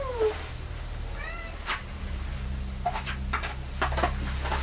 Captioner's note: cat meowing